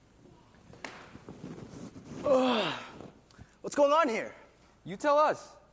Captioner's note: yawn